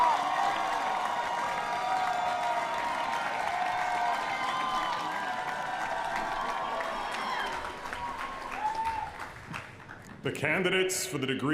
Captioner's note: applause